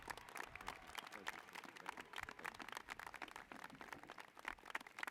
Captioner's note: applause